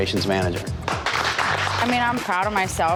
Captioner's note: applause